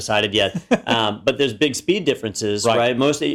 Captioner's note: laugh